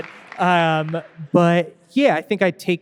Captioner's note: audience applauding